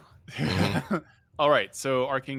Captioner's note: people laughing